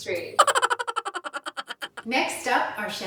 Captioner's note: giggling loudly